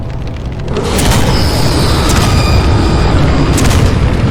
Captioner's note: explosions booming